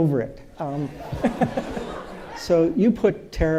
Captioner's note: audience laughing